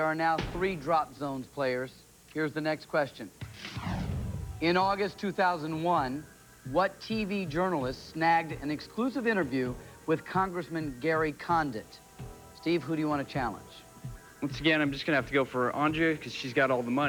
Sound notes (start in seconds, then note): none